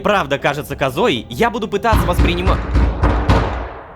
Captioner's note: knocking on the door